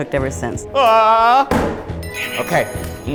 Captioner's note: groans